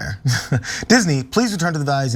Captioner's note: laugh